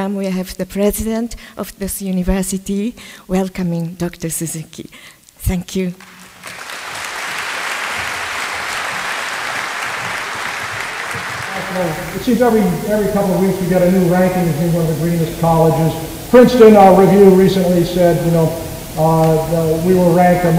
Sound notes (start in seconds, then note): 5.9 applause